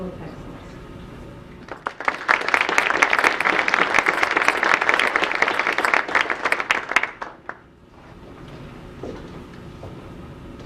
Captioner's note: audience applause